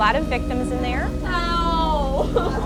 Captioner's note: wailing